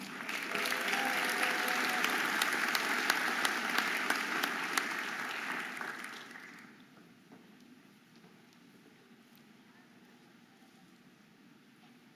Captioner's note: audience applauding and cheering